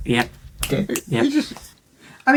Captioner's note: snapping